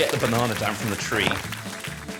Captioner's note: cheering